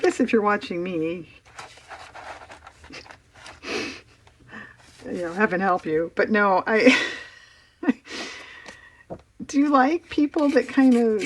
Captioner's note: laughs